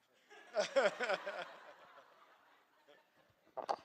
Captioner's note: laughter